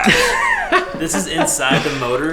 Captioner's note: laughs